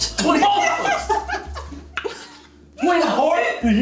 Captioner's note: laughing